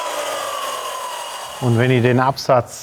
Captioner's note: whirring slows down